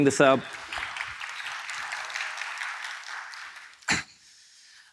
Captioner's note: audience applauding